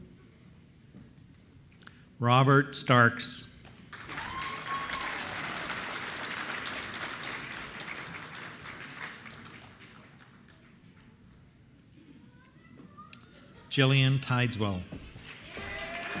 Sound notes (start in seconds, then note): 3.8 applause